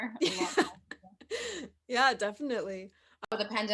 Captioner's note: laughs